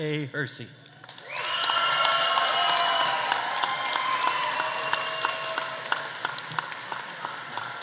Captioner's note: audience applauding; audience cheering